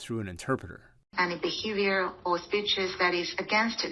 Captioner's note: through translator